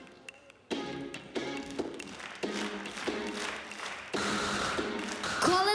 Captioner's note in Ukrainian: оплески